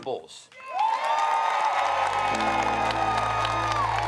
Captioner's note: crowd cheers